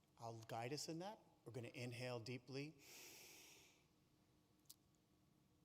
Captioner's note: inhales